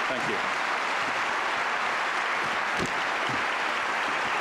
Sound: applause

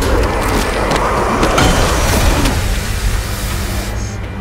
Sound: thudding

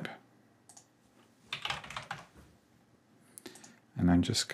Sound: keyboard typing

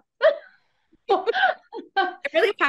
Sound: chuckles

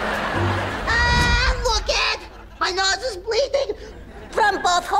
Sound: groaning

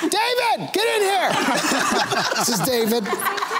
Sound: laughter

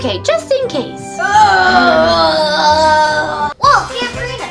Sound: moaning

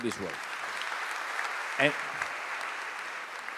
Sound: applause

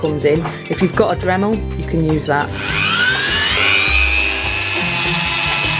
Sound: dremel whirrs

